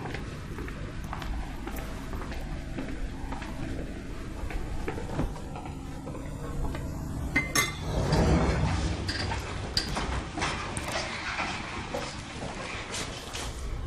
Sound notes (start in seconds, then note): 7.4 clanking sound